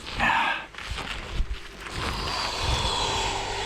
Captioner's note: grunts